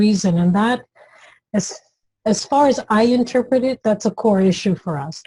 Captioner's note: none